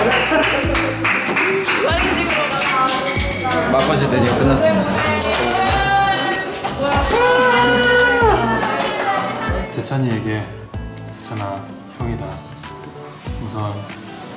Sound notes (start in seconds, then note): 4.9 clapping